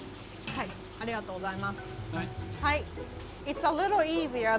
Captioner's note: speaking in foreign language